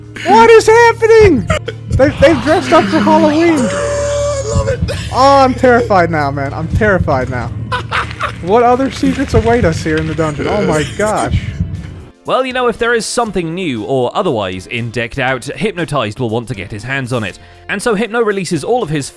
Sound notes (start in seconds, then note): 1.5 stifling laughter; 7.6 laughs